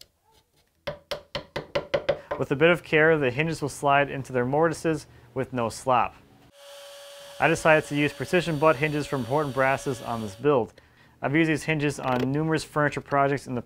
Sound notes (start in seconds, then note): 0.8 wood taps